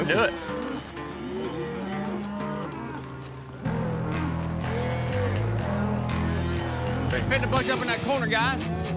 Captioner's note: cows moo